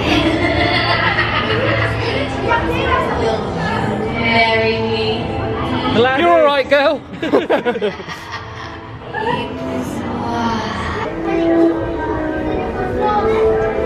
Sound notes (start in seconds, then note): 0.0 evil laugh; 7.1 laughter